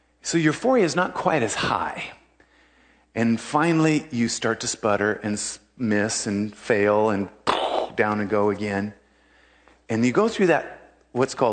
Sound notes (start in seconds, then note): 6.7 nose skid sound